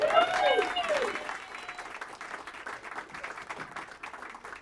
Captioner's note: people applauding